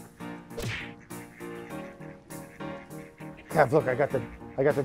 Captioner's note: punch landing